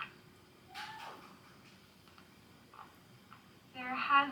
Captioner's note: cast member cheering